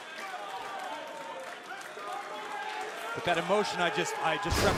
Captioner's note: crowd chatter